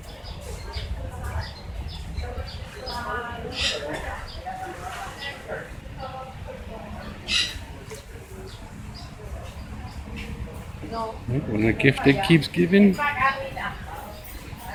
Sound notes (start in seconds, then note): 0.0 other birds are heard